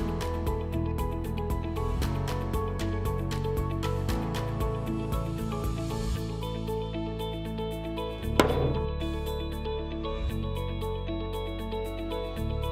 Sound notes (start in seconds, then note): 8.4 hammer banging